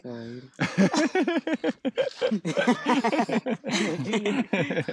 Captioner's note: men laughing